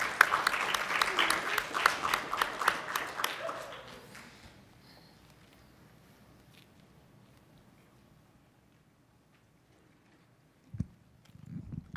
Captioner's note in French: applaudissements